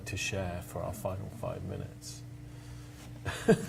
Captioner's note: laughs